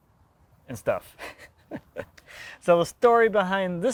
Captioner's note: laughing